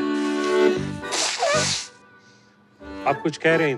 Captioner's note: Nose blowing